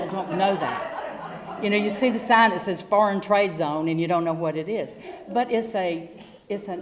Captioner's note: laugh